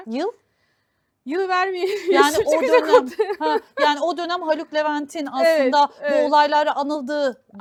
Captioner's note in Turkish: kahkaha